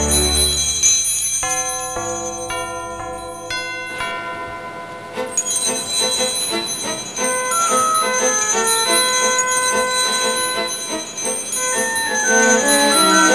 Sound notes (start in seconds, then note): 1.3 church bell ringing; 5.6 happy music playing